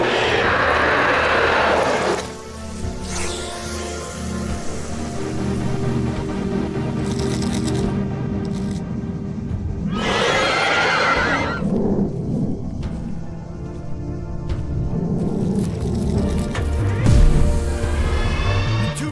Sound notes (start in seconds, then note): 0.0 roar; 3.2 hissing; 9.9 roar; 17.1 gunfire; 18.1 Screech